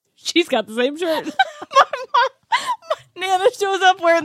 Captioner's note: laughs